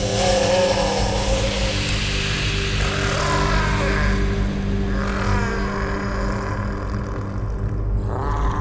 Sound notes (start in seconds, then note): 0.0 howls and snarls